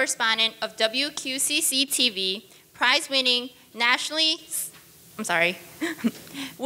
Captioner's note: laughs